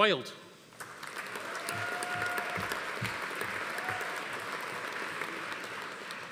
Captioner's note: audience applauding; attendee cheering